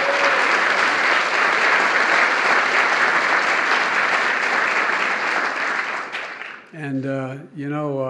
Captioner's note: applause